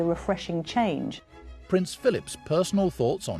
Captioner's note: voiceover